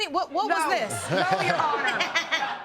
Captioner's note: laughing